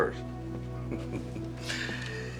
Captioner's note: chuckles